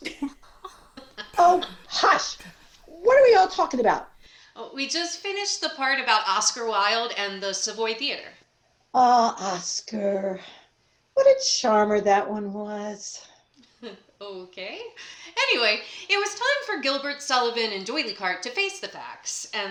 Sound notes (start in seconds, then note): 0.0 general laughter; 9.6 dreamily